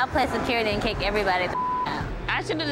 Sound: beep

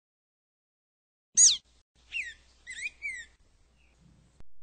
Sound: bird chirps

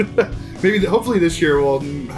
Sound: laughs

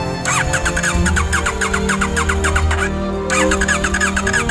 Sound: engine not starting

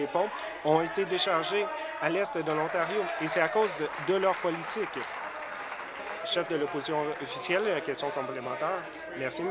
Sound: applause

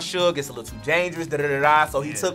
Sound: gabbles

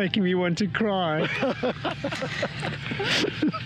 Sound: laughs

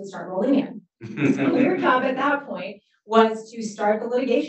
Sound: laughs

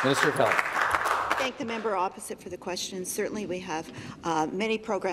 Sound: some Applause

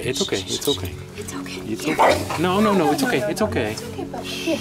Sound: growl; bark

